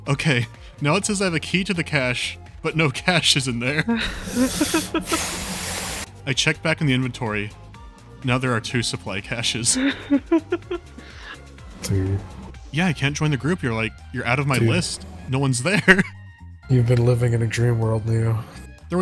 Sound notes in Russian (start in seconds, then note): 3.7 смех; 9.7 смех